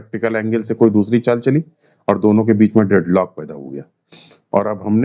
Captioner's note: nasal sound